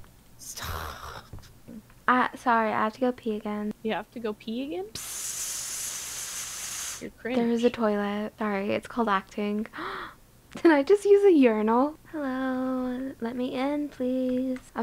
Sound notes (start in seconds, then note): 6.2 pee sounds; 9.8 gasp